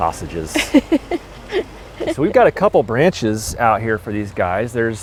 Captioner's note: laughs